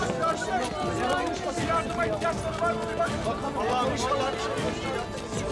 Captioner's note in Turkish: İnsanların gürültüsü